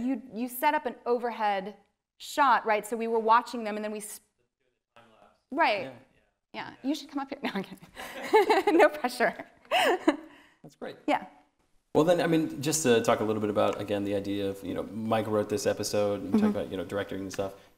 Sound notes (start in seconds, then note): 9.7 laughing